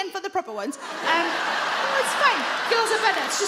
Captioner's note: audience laugh